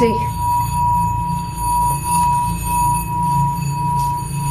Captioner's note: bowl ringing